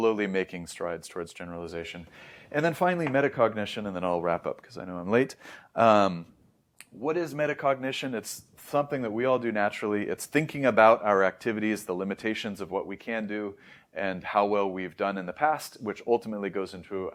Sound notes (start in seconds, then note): 5.4 inhales; 6.1 lips smack